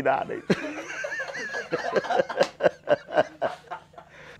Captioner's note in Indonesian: ketawa